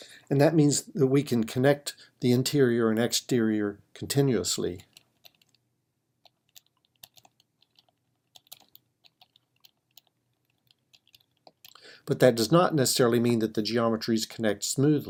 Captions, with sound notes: And that means that we can connect the interior and exterior continuously. [ Typing ] But that does not necessarily mean that the geometries connect smoothly.